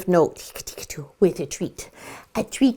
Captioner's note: playful whispers